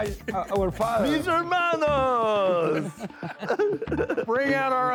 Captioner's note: laughter